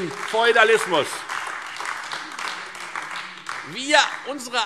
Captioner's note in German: Beifall Freie Demokraten und AfD